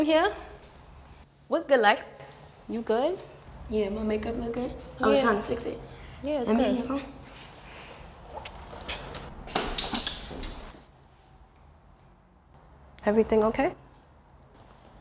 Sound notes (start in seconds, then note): 10.2 dropping something